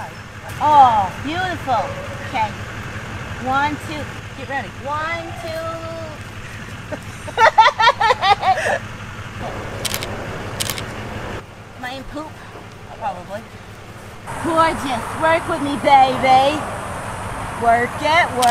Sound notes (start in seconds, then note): 8.2 laughing; 10.5 camera clicks